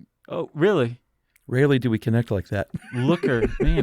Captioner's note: laughs